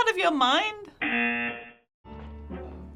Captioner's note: buzzer